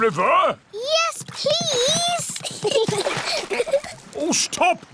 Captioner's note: giggles